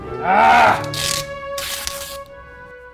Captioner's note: groans